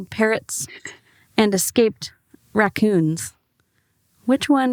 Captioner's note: lightly chuckles